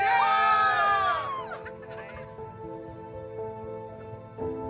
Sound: cheers

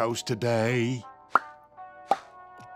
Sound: popping twice

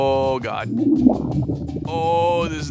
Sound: stomach gurgling

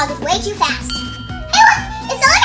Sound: lookout tower tinging

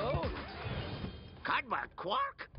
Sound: record scratches

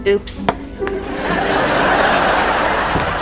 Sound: laughing

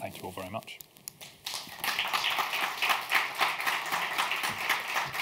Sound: audience clapping

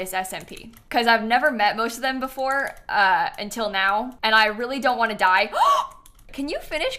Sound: gasps

